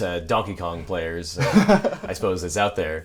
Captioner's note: laughs